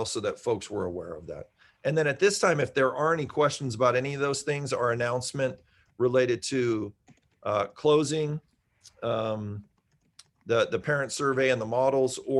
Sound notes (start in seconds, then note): none